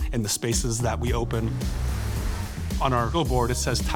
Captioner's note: bus whooshing